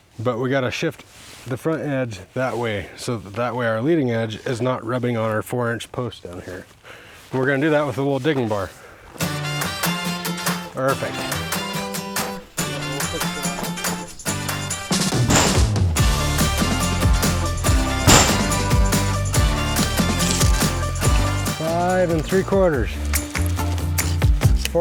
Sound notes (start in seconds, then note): 11.0 upbeat rock music; 15.4 metal banging; 19.8 measuring tape rattling